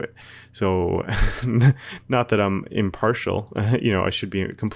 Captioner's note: laughs